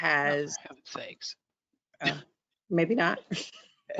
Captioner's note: laughs